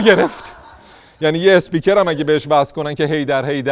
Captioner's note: laughter